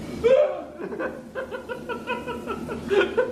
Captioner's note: screams; laughs